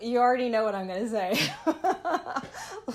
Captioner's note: laughter